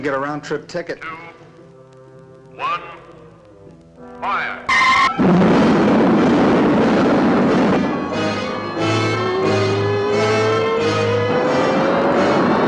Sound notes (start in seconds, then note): 1.3 loudspeaker; 4.6 rocket rumbling